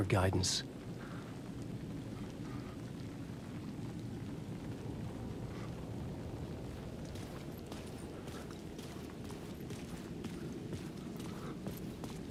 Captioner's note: wind whistling